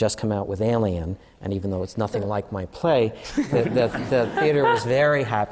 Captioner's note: laughter